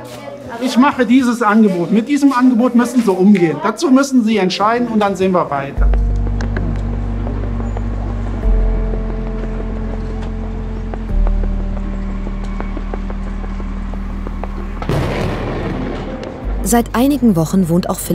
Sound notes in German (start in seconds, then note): 0.5 laut; 8.4 Ruhige Musik